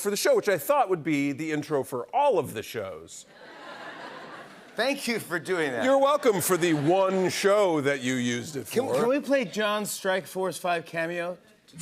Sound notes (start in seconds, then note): 3.3 laughter